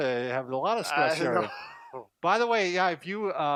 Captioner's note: laughing